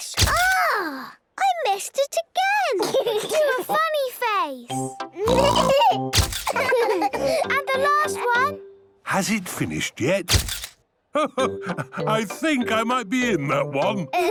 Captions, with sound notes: - (camera clicks) - Agh!! I missed it again! - (giggling) - Do a funny face! - (all laughing) - And the last one! - Has it finished yet? - (camera clicks) - Ho, ho! I think I might be in that one.